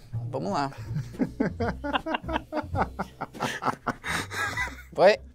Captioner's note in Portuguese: risadas